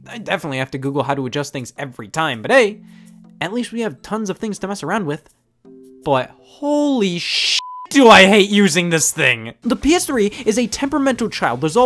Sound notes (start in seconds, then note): 7.2 beep